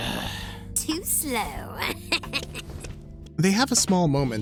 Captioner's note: snickers